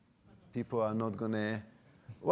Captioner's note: audience laughing